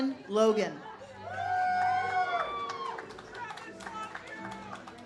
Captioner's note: audience cheers